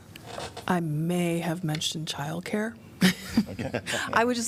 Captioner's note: laughter